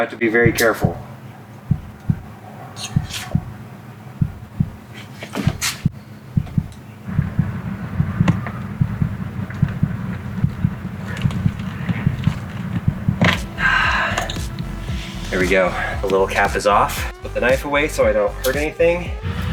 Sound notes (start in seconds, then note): 4.2 suspenseful heart beating; 16.8 sighs